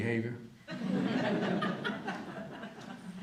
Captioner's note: audience laughter